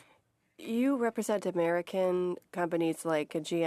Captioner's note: speaking French